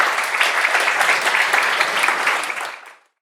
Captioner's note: audience applauds